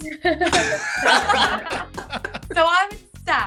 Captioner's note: everyone laughs